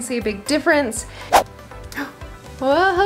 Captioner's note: swoosh